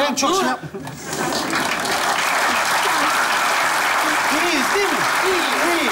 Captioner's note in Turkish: Alkış sesleri